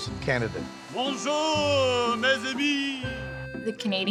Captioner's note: speaking in foreign language